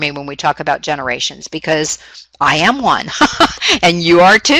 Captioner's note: laughs